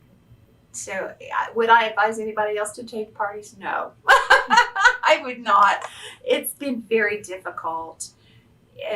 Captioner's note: laughs